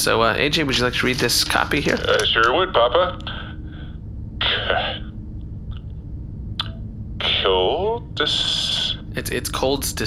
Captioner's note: stumbling